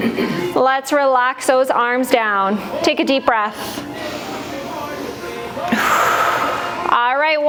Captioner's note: breath